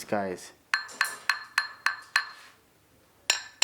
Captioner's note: sounds of ceramic bowls tapping